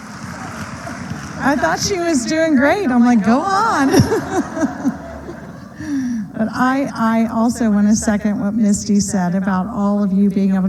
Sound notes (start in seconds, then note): 3.0 laughter